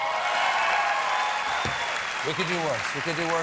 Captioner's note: applause